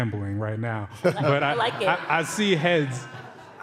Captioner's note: laughter